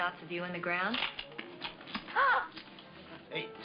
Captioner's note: gasps